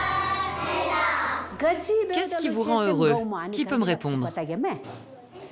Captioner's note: dzongkha spoken audio